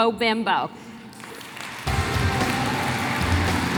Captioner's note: applause